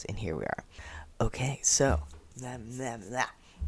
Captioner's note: mlem mlem mleh